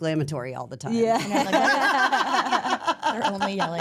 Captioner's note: all laugh